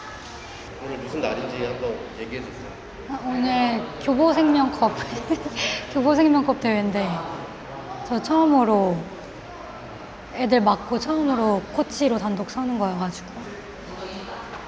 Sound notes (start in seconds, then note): 4.8 laughs